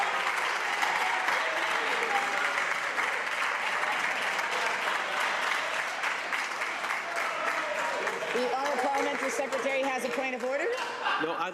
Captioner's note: some Applause